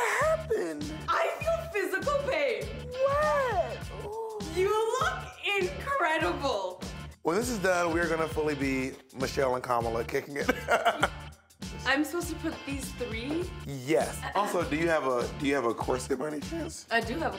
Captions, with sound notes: - What happened? - I feel physical pain. - What? Ooh. - You look incredible. - When this is done, we're gonna be fully be Michelle and Kamala kicking it. [laughs] - I'm supposed to put these three... - Yes. Also, do you have a corset, by any chance?